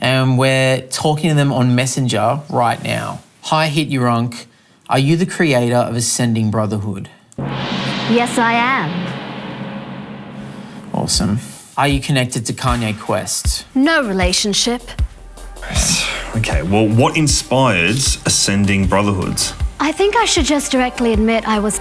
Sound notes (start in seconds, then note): 7.4 gong sounding